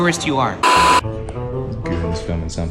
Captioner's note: beep